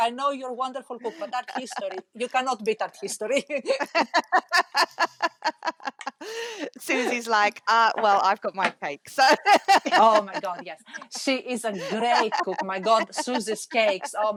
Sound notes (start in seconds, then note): 2.9 laughing